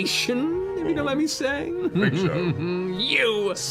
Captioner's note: chuckles